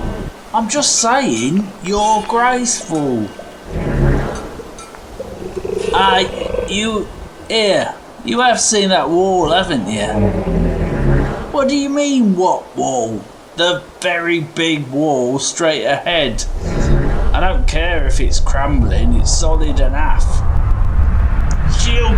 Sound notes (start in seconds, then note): 0.0 turtle snort; 3.5 disbelieving huff; 10.4 turtle grunt; 16.2 turtle snort; 19.0 whooshing intensifies